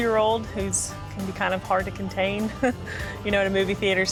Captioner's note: laughs